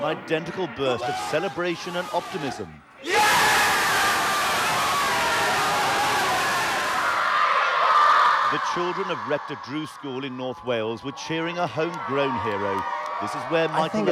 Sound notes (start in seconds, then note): 3.0 men cheering wildly; 7.6 children cheering